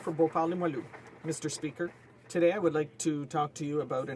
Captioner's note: applause